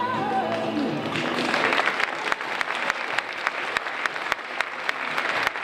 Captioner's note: audience applauding